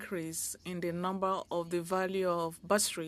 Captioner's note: speaking French